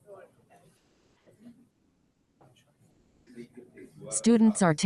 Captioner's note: people chatter indistinctly